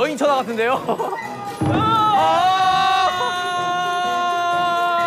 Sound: crying

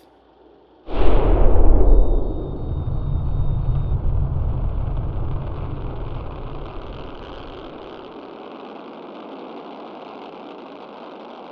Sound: sound of a spaceship blasting off

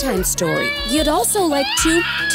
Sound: kid shouting

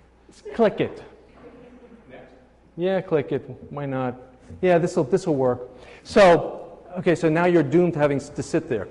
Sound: laughing; laughing

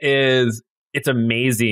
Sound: laugh

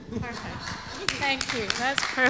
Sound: all laugh; audience applauds

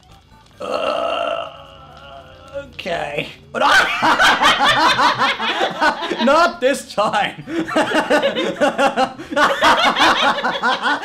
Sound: laugh; laugh, then laugh harder

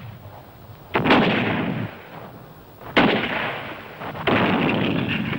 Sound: gunfire thundering

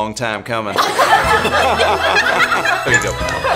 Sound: group laughing

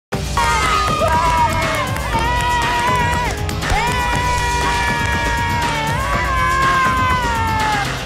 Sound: cheering

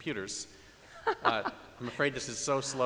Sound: laughs loudly

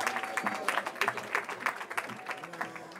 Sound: cheering

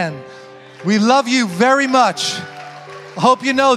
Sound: congregation applauding

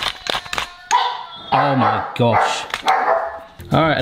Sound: dog barking

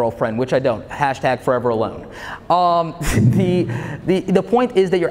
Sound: chuckles

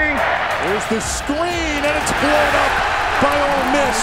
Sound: voiceover

